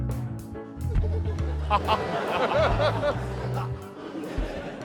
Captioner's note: western-movie music; laughter